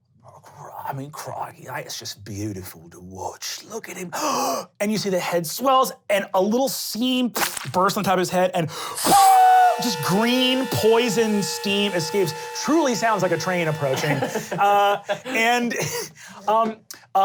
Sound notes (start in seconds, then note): 4.1 gasping; 7.3 splattering; 9.0 steam engine whistling; 13.9 laughing